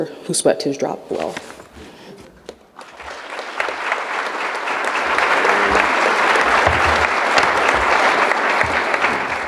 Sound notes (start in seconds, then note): 2.7 audience applauding